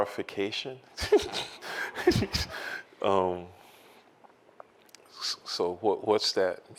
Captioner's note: laughs